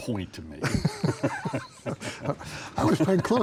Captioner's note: laughing